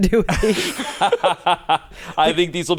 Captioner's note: everyone laughs